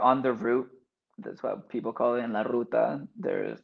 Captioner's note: speaks Spanish